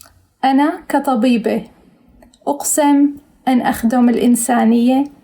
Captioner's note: speaks in foreign language